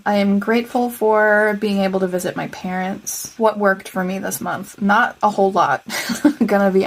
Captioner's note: laugh